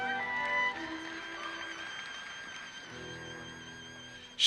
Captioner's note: audience applauses